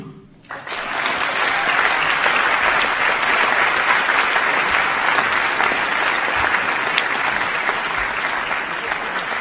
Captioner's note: audience claps